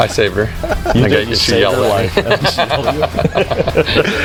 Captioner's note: laughing